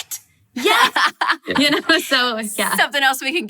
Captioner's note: laughing